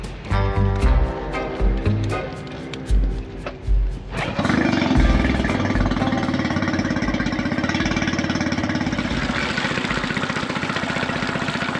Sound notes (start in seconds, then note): 0.1 suspenseful music; 4.2 motor running